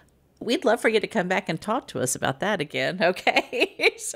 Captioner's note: laughing